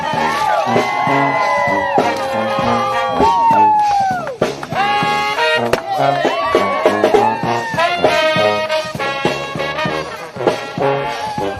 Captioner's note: cheering and applause